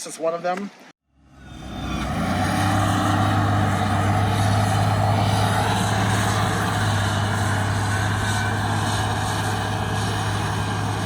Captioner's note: sound of construction equipment